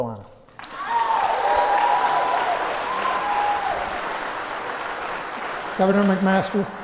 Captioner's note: applause